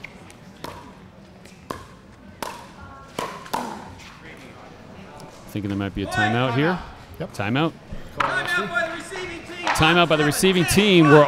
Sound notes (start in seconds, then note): 4.9 chattering